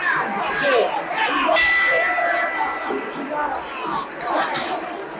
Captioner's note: bell rings